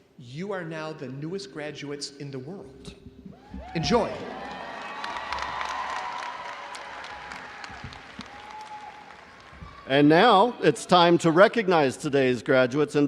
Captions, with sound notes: you are now the newest graduates in the world. Enjoy. (crowd cheering and applauding) - And now it's time to recognize today's graduates